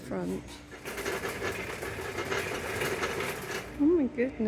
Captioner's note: clattering trolly